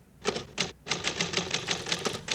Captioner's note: typing